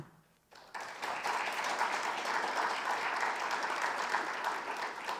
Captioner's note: audience applauding